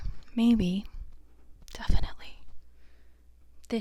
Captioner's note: whispered